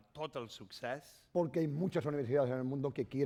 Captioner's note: speaking spanish